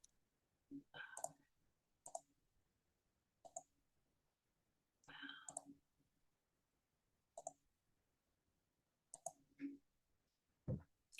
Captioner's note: silence